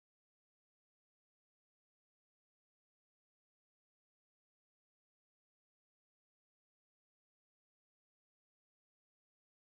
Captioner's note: TV sound